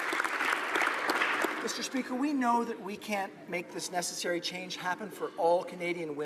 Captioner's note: applause